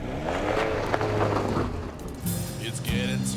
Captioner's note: car driving away